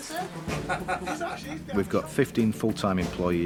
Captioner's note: laughing